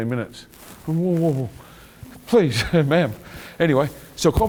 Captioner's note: chuckling